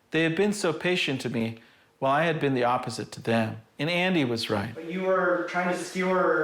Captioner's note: none